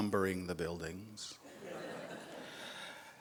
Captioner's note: laughs